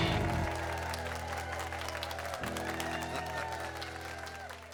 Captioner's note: audience applauds